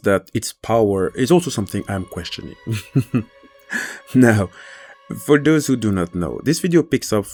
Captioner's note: laughs